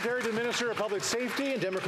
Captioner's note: some Applause